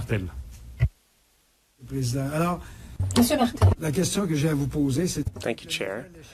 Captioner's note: speaking French